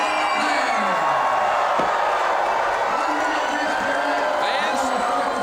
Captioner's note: crowd cheering and booing